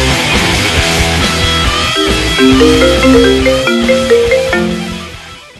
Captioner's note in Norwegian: mobiltelefon ringer